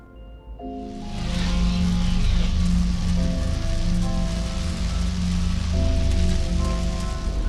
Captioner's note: sparkling magic noise